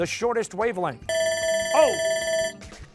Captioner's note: bell ringing